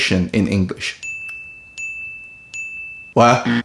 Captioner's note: bell rings